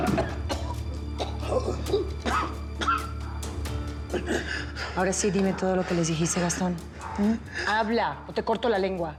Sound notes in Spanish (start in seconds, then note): 0.0 ruido al tirarle agua; 2.2 gastón tose